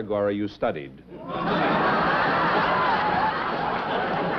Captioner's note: chuckling